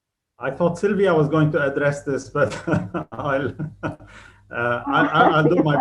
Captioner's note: laughs